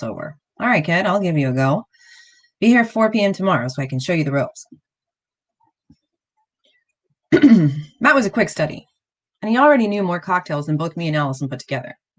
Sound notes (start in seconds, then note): 7.3 clears throat